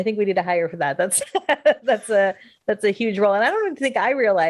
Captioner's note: laughs